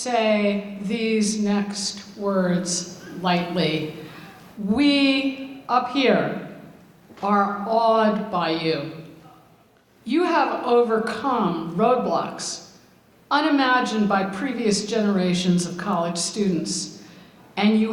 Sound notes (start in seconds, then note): none